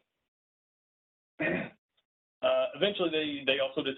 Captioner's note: clears throat